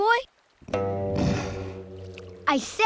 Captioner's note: grunting